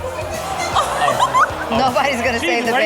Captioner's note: parent laughs